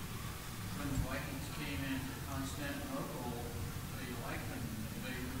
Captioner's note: man speaking off-microphone